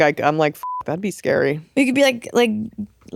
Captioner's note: beep